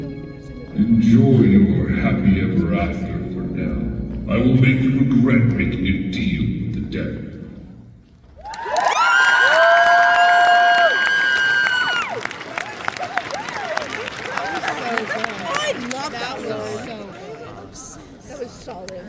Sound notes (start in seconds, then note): 9.9 crowd applause and cheers; 12.8 murmurs of appreciation of the skit